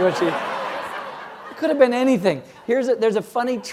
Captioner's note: laugh